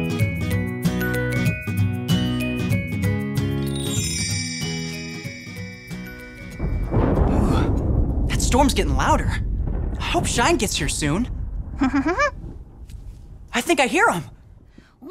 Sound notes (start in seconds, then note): 0.0 light playful music; 3.7 stars twinkling; 4.2 light playful music; 7.0 thunder rumbling; 11.8 Shine giggling